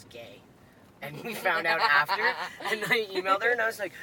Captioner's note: laughs